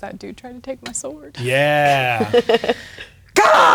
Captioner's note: laughing